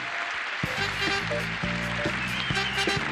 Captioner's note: audience cheering; upbeat music